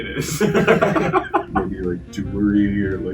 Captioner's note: both laughing